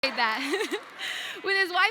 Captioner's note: laughing